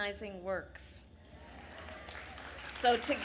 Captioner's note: applause